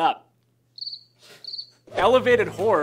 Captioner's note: crickets chirping